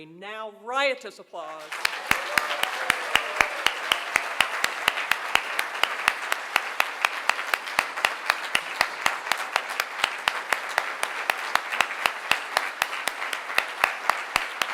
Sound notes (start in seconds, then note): 1.5 applause